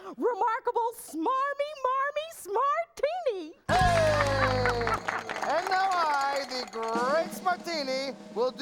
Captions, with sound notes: REMARKABLE, SMARMY MARMY SMARTINI. ( applause ) AND NOW I, THE GREAT SMARTINI